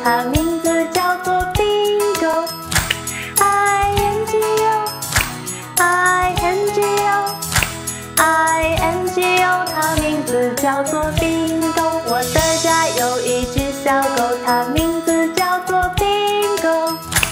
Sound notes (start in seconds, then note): 2.6 clap